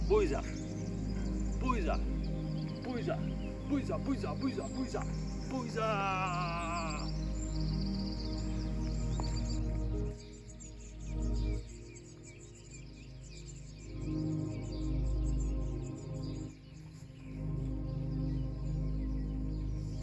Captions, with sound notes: Boiza, boiza, boiza, boiza, boiza, boiza, boiza, boiza. Boiza! (groaning) (gentle music)